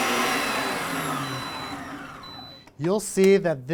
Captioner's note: mixer beeping